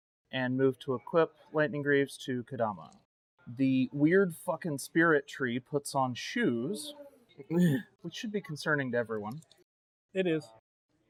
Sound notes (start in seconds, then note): 7.5 amused grunt